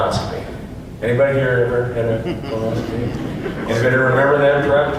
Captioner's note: awkward chuckling from audience